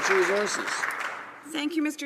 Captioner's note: some Applause